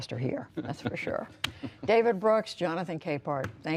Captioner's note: laughter